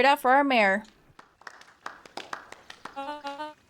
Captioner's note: clapping